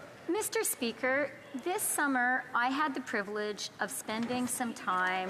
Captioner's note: speaking French